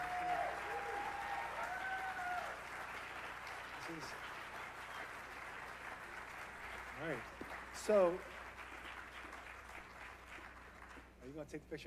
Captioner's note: applause